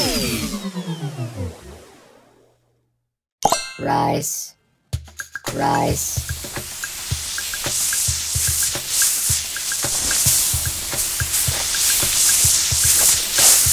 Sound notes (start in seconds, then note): 0.0 robot powering down; 6.6 rice sprinkling